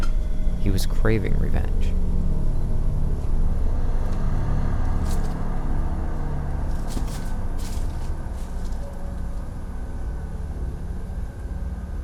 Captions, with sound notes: He was craving revenge. (eerie music) (footsteps rustling)